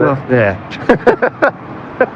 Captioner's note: lauaughghter